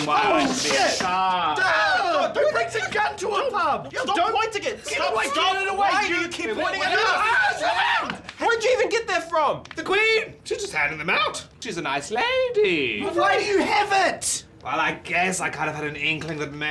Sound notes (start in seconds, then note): 0.1 two men screaming; 7.2 men screaming